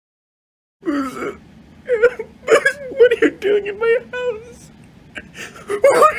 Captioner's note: sobbing